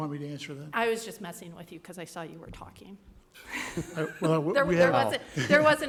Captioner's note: laugh